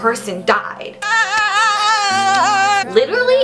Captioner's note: wailing